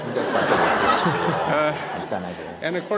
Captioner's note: /Audience Laughter